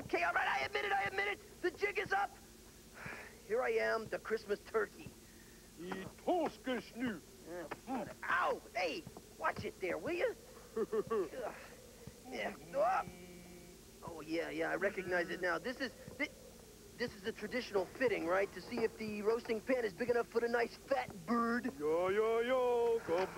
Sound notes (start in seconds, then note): 6.7 speaking swedish